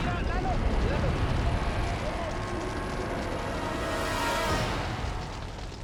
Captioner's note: explosion booms; people shout in foreign language